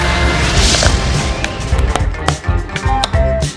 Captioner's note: grinding Completes